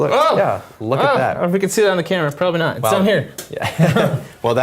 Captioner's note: laugh